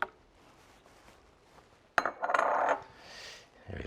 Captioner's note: bowl clonking